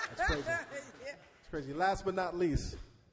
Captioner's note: laughs